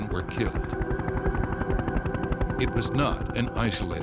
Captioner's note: sirens wail